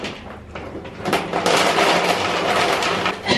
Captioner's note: dog food pouring; coughs